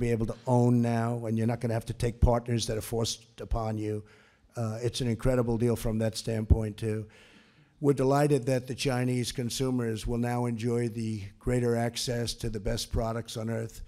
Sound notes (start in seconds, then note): none